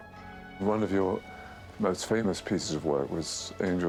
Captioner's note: voiceover